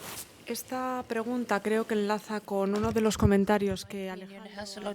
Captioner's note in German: spanisch